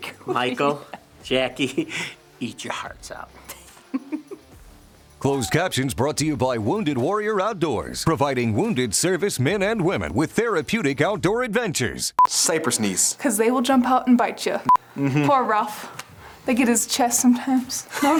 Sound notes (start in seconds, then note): 3.5 laughs; 12.7 test card beeps